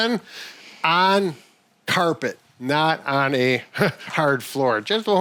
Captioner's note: chuckles